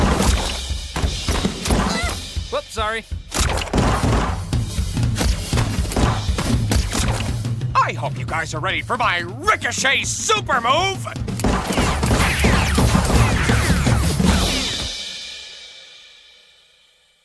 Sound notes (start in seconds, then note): 1.8 yelps; 11.3 gunfire; 11.4 bullets whizzing